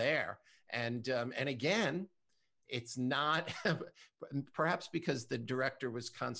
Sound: chuckles

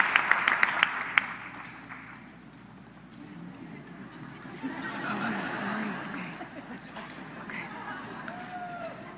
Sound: laughter

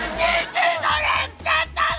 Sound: screaming

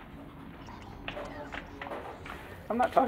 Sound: ghostly whispering

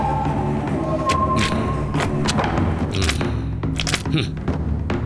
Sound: wet sloshing

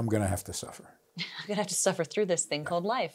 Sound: laughs

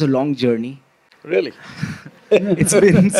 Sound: laughs

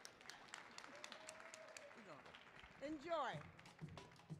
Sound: audience clapping

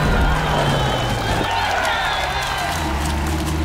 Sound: crowd cheering

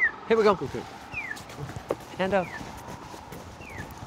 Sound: walking signal whistles

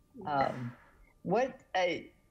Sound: laughing

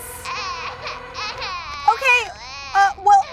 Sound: baby cries

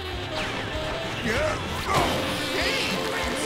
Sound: grunting

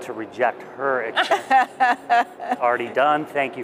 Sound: laughs

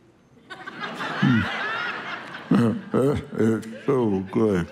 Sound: congregation laughing

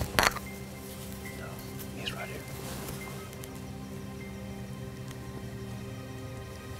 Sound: whispering

